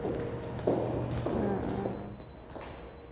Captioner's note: footsteps